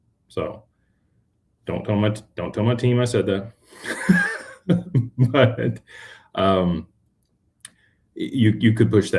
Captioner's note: laughter